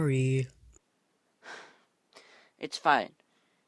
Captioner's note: angrily sighs